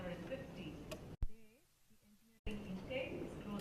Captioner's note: audio cuts out